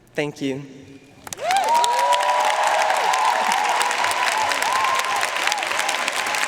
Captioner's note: audience cheering and applauding